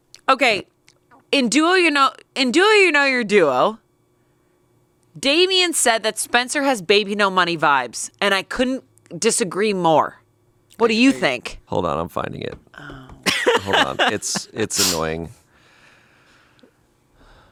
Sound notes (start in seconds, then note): 13.2 laughs